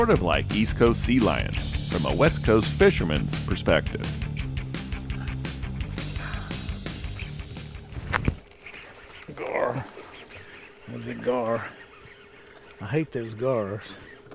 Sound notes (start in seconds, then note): 6.5 rod whipping